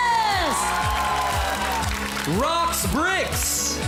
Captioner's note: clapping, cheering